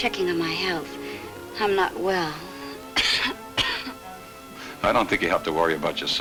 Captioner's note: coughs